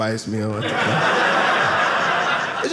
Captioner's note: audience laughing